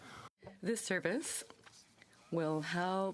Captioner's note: speaking French